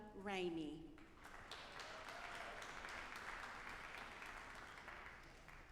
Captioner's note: audience applauding